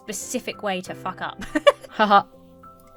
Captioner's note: giggles